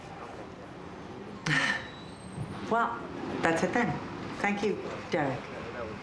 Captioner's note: sighs